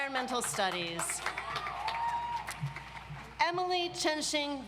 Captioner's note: audience applauds